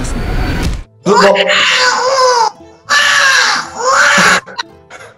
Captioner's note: baby screaming